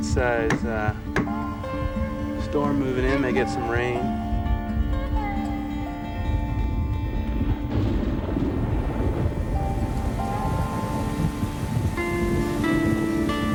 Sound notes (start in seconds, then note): 4.4 thunder rumbling; 10.2 rain pelting down